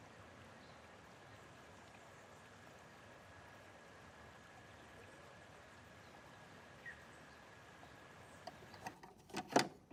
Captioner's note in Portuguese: canto dos pássaros